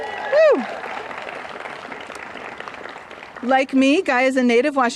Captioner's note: applause